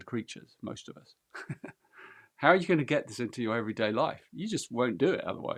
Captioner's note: laughs